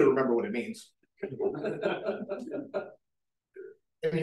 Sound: laughter

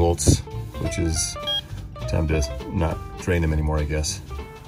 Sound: beep

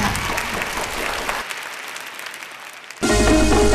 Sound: audience applause

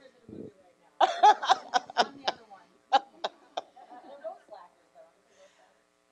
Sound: laughter and murmuring

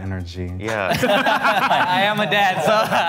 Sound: all laughing

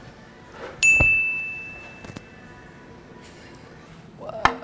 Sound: bell dings

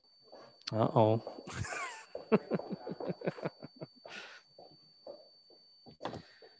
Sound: laughing

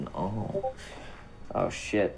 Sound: phone beeping

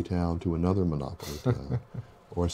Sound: laughs

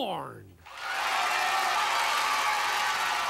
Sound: applause

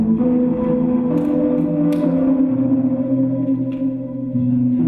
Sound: dancers clapping

